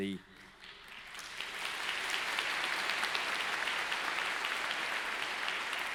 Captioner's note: congregation applauding